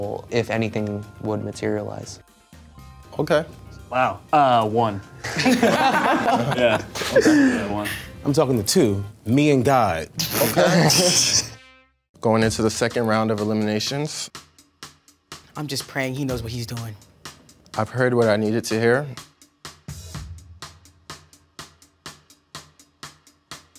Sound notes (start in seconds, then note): 5.2 contestants laugh; 10.4 laughs; 10.4 contestants laugh; 21.2 tense music